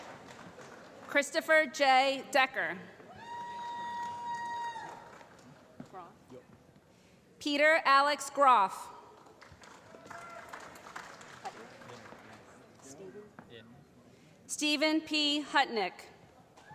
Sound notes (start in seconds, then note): 9.1 applause